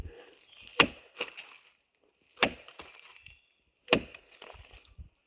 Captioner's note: log thudding